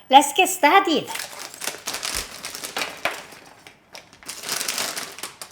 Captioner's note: plastic rustling